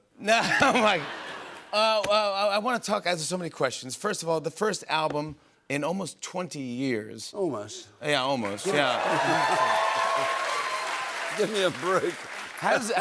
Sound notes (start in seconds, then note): 8.7 cheers and applause